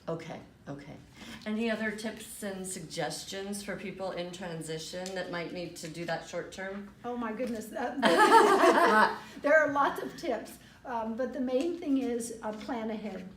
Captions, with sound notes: - Okay, any other tips and suggestions for people in transition that might need to do that short-term? - Oh my goodness, that, they (laughter) There are lots of tips, but the main thing is plan ahead.